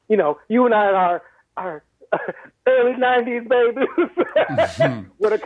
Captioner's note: laughs